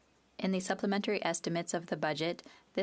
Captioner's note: speaking French